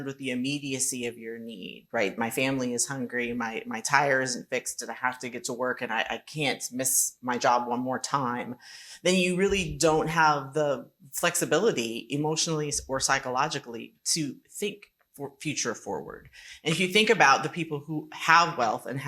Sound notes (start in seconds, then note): none